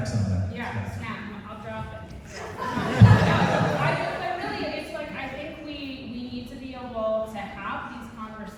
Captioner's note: audience snaps